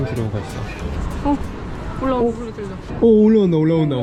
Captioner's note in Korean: 엘리베이터 올라오는 소리 들림